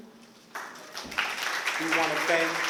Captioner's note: applause